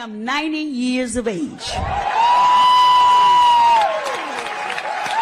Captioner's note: cheering